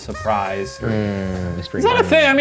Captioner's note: party favor squeaking